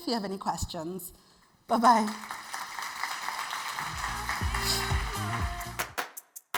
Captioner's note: attendees applauding; bright music